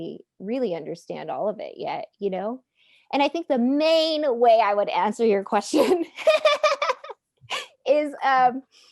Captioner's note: laughing